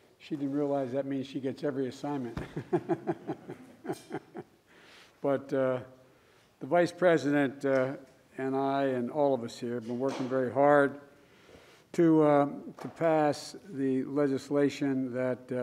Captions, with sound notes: She didn't realize that means she gets every assignment. (Laughs.) But the Vice President and I, and all of us here, have been working very hard to -- to pass the legislation that --